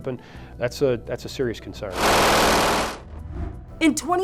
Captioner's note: gun blasts